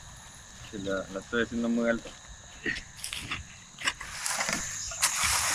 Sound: speaking in Spanish

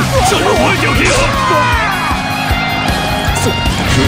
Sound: fatal scream

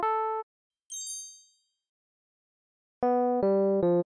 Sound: magic sparkling sound

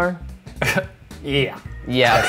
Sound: scoffs

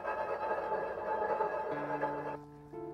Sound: pan sliding

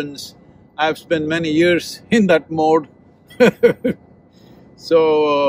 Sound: laughs

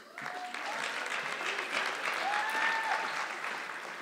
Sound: audience clapping

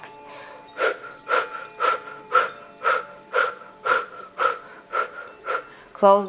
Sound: gentle music; breathing heavily

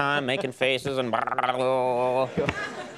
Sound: gurgles; audience laughs

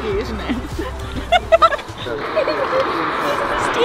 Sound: laughing

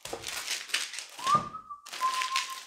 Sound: whistling

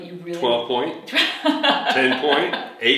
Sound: laughs

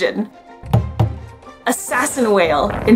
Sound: background music; two short banging noises

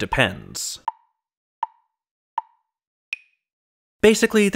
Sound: tick, tick, tick, tick, tock

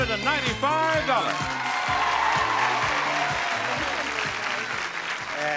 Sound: audience cheering

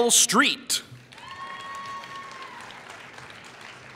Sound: applause

